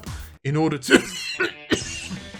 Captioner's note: coughs